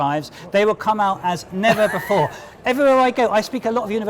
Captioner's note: laughter